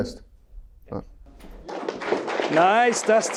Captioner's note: attendees clapping